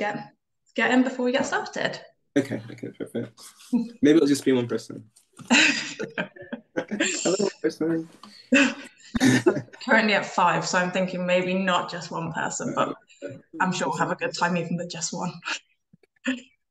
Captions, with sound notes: And we'll wait for everyone else to get in before we get started. ok ok - maybe it'll just be one person (laughter) Hello one person (Laughter) currently at 5 so I'm thinking maybe not just one person but I'm sure we'll have a good time even with just one